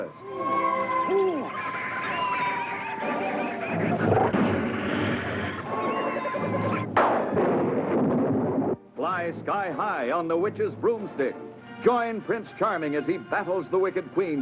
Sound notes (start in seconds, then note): 0.5 owl hoots; 4.0 growling; 6.7 thunder crashing